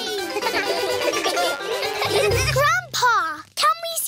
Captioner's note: all giggle